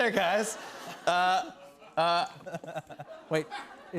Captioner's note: laughter